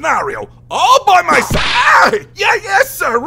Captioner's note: whip crack